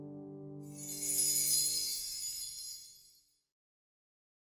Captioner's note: chimes tinkling